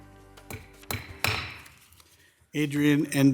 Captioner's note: gavel thudding